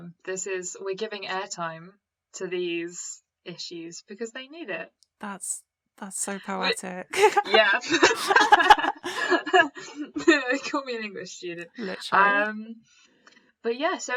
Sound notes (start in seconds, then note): 7.1 laughter